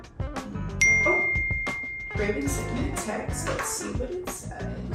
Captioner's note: dinging